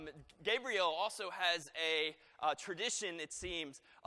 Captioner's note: none